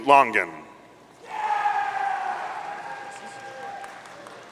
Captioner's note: audience cheering